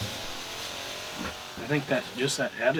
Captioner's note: spray gun buzzes and hisses